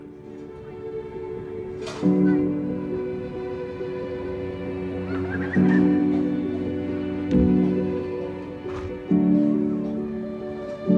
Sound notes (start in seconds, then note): 1.7 Gefühlvolle Musik; 4.9 Kinderlachen